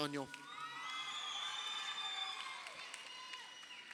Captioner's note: crowd cheering